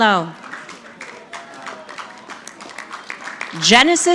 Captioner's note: audience clapping